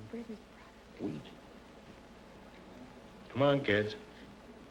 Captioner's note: whispering